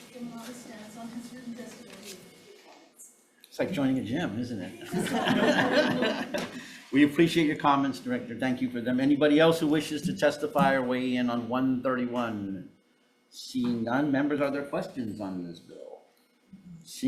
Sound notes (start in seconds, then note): 4.8 attendees chuckling; 4.8 chuckling